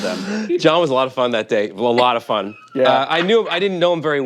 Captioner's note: laughs